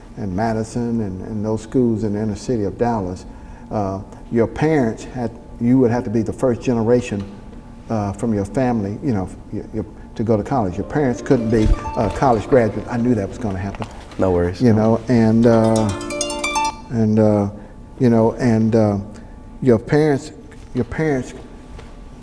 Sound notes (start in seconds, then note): 15.4 phone ringing